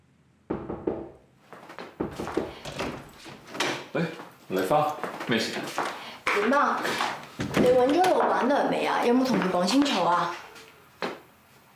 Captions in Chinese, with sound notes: [敲門聲] 麗花, 怎麼了？ 怎麼樣？你找了老闆娘沒有？ 有跟她說清楚嗎？